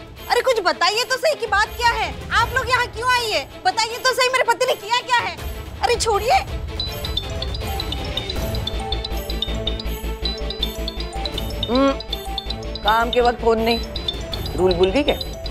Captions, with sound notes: Will you at least tell me what is this about? Why are you here? What did my husband do to you? Leave him. [phone ringing] [humming] No phones on the mission. Did you forget the rule?